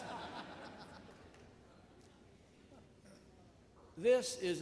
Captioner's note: audience laughs